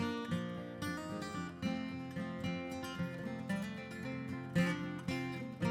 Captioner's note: none